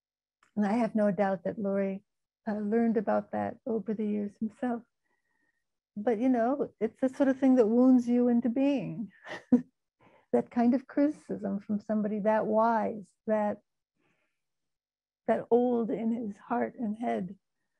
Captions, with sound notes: And I have no doubt that Louri, learned about that over the years himself, but you know, it's the sort of thing that wounds you into being (laughing) that kind of criticism from somebody, that wise, that old in his heart and head.